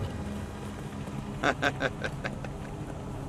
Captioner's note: laughing